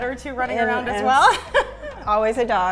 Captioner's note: laughing